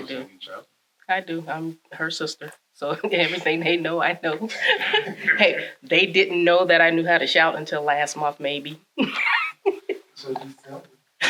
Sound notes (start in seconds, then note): 4.1 laughs; 9.0 laughs